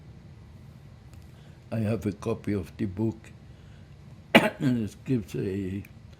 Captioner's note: coughing